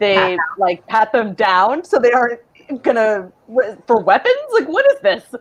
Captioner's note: stammers